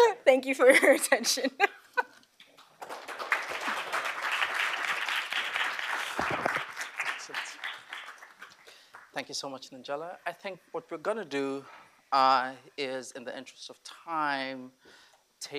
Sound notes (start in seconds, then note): 2.5 applause